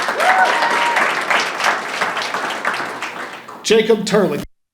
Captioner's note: audience applauding and cheering